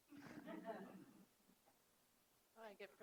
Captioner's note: audience laugh